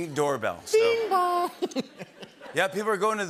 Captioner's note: laughter